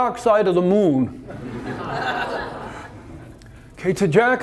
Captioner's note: audience laughter